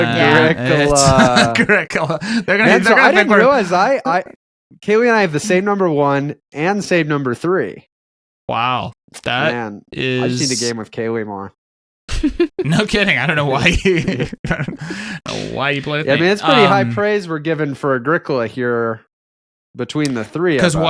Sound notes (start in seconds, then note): 13.5 laughing